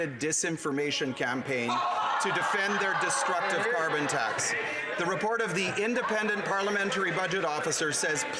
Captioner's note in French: voix de l'interprète